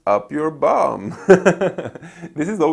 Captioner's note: laughing